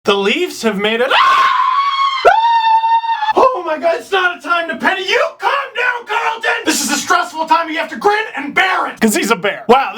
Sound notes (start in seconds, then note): 1.1 screams like a maniac; 1.1 still screaming